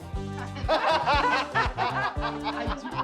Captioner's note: laughs